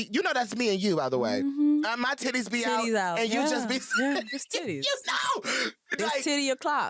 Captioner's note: laughs